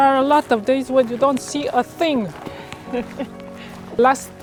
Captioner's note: chuckles